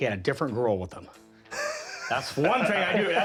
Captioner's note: chuckles